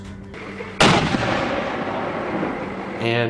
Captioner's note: mortar booms